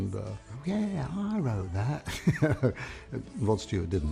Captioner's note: laughs